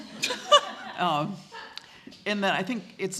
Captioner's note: laughter